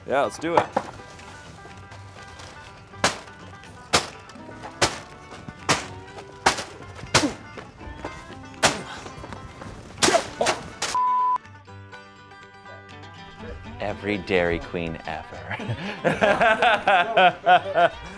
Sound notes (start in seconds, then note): 1.7 country music; 3.1 sack rattling; 8.7 skater grunting; 15.3 laughs